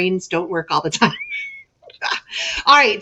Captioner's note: lady chuckles